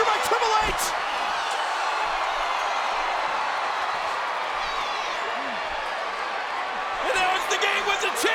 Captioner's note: applause